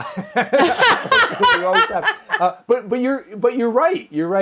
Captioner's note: laugh